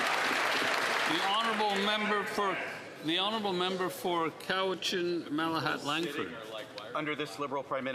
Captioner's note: some Applause